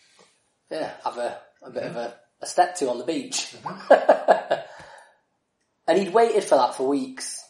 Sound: laughs

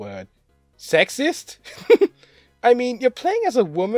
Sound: giggles

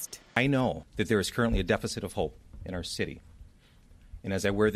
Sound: none

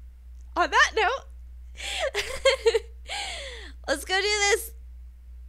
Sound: laughs

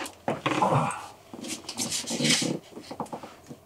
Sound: groans

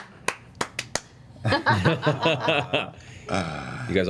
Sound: laugh

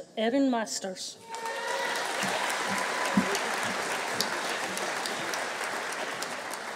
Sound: audience cheering; audience applauding

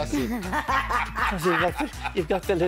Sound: laughing

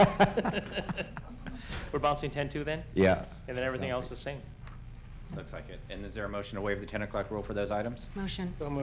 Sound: laughter

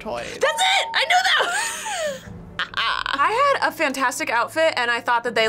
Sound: laughs

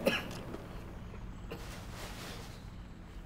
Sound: coughing

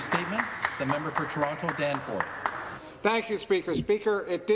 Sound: some Applause

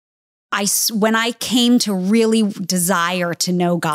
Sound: none

